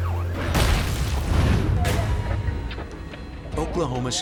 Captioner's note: logo slams